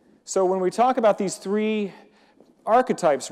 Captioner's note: none